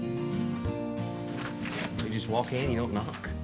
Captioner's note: opens door